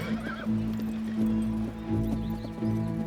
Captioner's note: whinnying